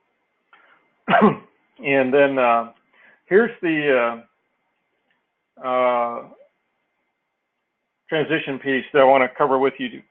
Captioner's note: cough